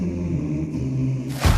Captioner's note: humming